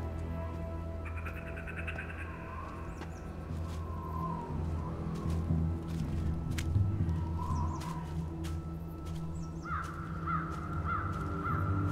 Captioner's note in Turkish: Hayvan Sesleri